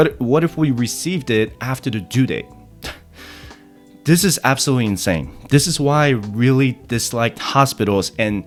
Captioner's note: sighs